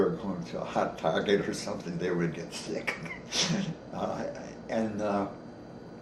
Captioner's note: chuckles